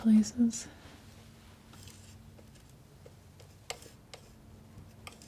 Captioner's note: scratching